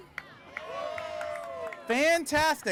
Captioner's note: cheering